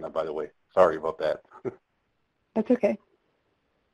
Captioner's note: chuckles